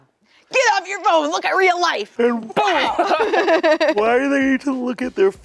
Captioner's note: laughing